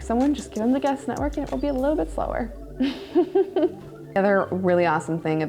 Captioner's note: laughing